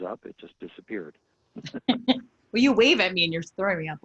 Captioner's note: laughing